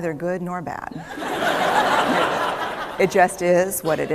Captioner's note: laughter